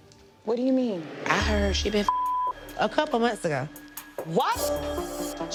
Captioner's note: beep